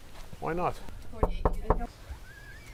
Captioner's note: knocking